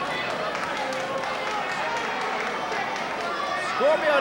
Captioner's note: audience applauding